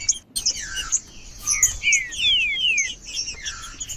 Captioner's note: trinca ferro cantando